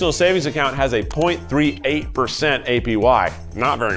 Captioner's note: button clicking